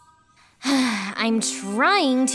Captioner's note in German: seufz